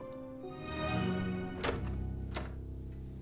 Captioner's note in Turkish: Kapı açılma sesi